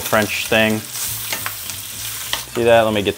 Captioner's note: chops sizzling continues